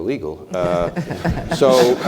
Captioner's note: laugh